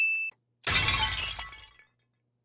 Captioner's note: glass breaking